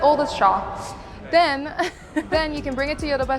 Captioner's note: laughs